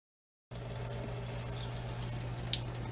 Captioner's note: water running